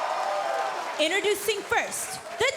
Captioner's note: cheers & applause